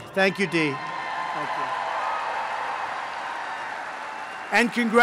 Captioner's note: applause